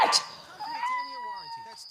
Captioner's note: meows